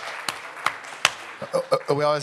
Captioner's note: audience Applauding